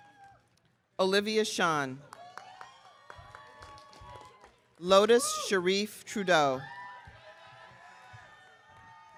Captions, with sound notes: Olivia Shan. (audience cheering) Lotus Shareef-Trudeau.